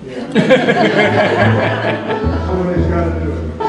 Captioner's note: laughter